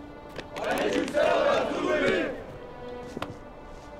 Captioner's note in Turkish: Hep bir ağızdan